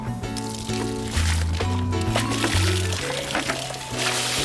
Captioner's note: water splashing